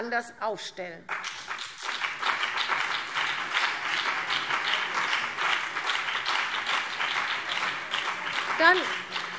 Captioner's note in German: Beifall CDU und BÜNDNIS 90/DIE GRÜNEN